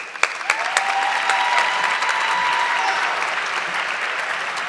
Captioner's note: audience clapping